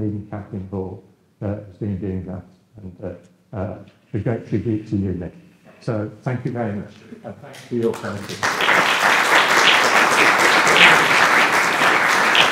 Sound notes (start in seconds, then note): 7.8 applause